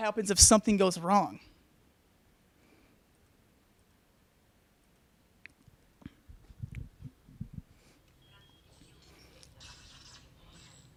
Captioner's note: crashing Noises